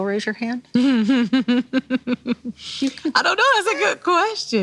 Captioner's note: laughing